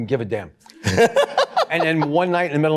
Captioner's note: laughter